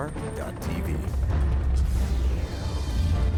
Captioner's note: voiceover